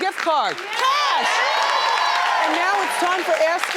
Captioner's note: audience cheers and claps